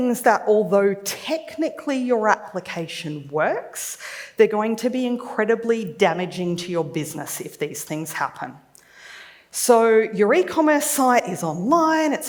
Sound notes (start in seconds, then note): none